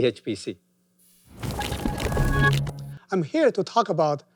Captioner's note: transition sound effect